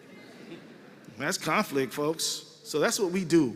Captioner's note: laughter